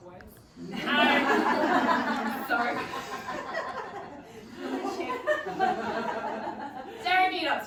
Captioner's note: room laughs